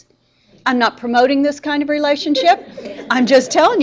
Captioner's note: students laughing